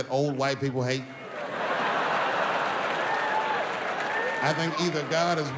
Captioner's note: audience laughs